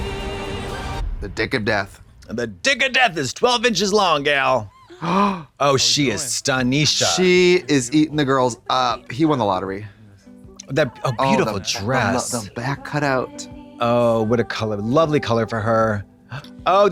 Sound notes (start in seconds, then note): 4.7 Trixie gasps